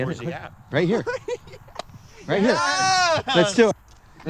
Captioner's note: laughs